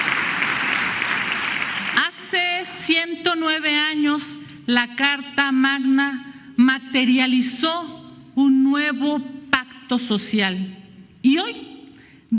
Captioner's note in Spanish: aplausos